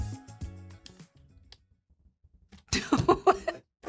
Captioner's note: trigger clicking; laughs